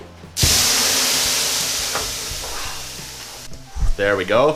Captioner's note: water steaming